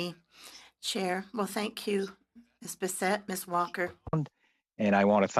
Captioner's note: speaking French